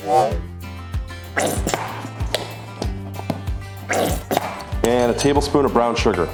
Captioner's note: sauce squirting